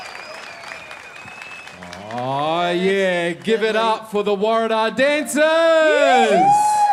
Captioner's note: applause